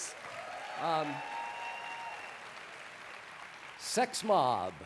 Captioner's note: applause